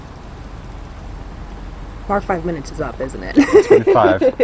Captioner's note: laughs